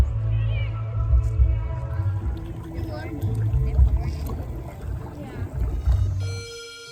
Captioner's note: gentle water sloshing